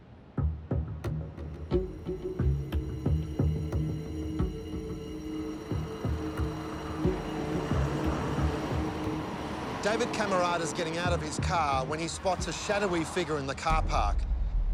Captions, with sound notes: (vehicle engines revving) - David Cammaratas getting out of his car when he spots a shadowy figure in the car park.